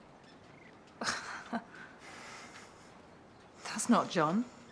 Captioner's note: Jen and John chuckle